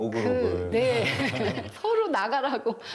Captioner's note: ㅎㅎㅎㅎㅎㅎㅎ